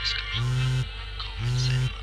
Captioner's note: alarm call